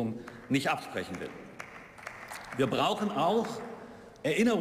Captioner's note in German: Beifall